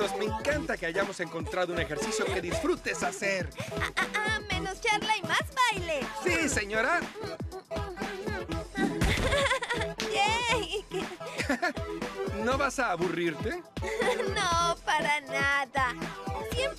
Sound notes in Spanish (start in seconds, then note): 8.5 riendo; 13.8 riendo